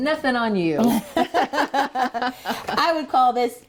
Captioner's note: laughing